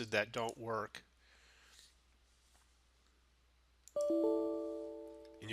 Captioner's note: sound of error